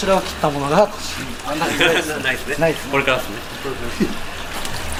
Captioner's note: laughs